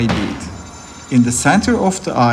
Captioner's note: metallic shining sound